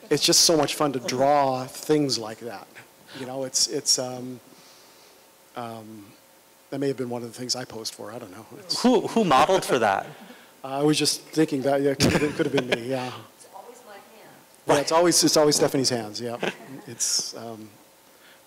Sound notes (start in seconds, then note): 12.0 laughter